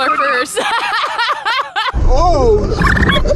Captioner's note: laughing